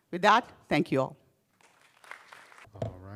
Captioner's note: applause